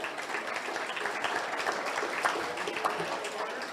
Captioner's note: audience laughs